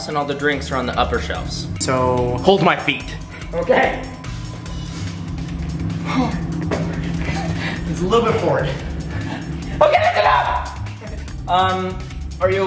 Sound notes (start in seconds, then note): 4.6 laughing; 9.7 laughing